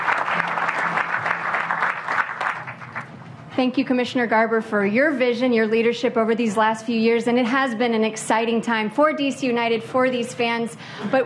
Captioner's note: applause